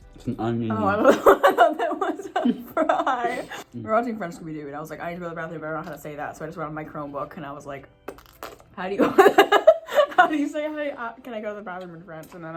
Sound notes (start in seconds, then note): 8.2 fart noise; 9.6 laughs